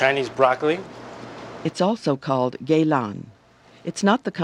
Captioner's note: voiceover